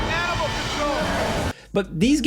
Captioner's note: creature roars